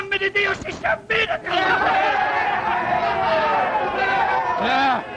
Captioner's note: cheering